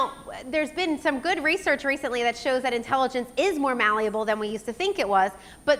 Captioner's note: none